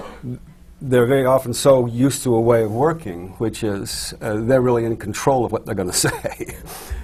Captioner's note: laughs